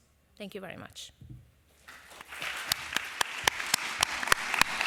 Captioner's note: applause